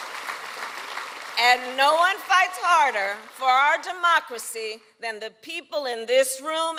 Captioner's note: applause